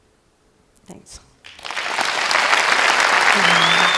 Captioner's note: Aplausos